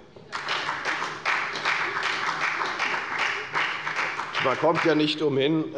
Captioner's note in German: Beifall bei der FDP und bei Abgeordneten der CDU